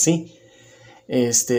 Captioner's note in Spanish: Silencio